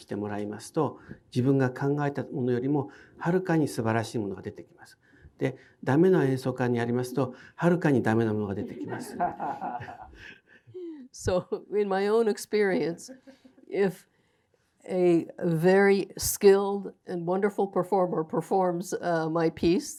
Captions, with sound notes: (audience laughing) So in my own experience, if a very skilled and wonderful performer performs my piece